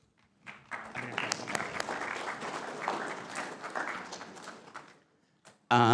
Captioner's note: applause